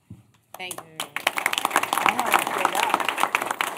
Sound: applause

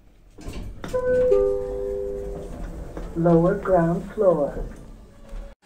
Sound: chime

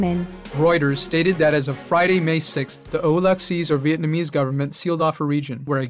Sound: Vietnamese

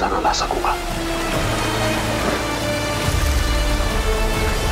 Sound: water gushing

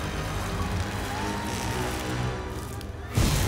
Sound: screaming

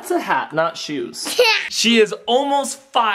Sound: laughs

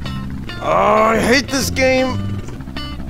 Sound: groan

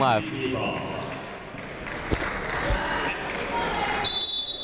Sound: crowd applauding; whistle tweeting

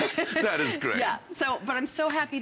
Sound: laughter

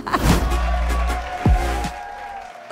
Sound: audience applauding

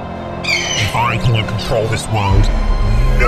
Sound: bird screeching; footsteps booming

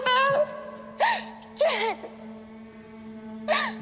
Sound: she gasps

